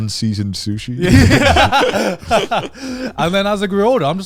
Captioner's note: laughs